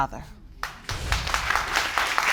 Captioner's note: audience applauding